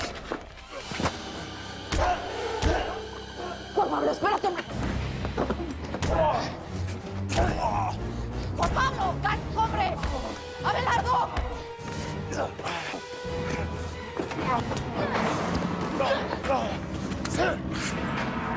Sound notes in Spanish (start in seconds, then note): 2.7 Ruidos del forcejeo; 7.2 Ruido de puñetazos; 13.2 Ruidos del forcejeo